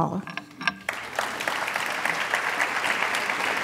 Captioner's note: applause